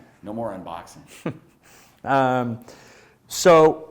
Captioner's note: chuckling